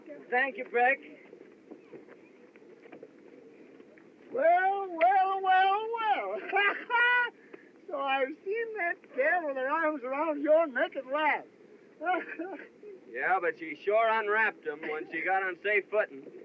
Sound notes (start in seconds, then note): 6.2 laughs; 12.0 chuckles